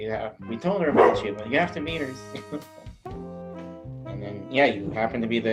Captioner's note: chuckles